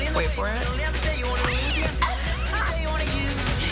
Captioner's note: cat screech; laughter